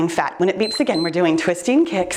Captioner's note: timer beeps